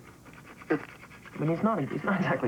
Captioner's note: spits